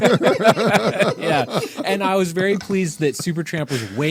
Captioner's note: laughing